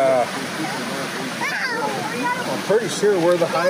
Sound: kids hollering playfully

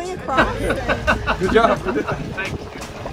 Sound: loud laughter

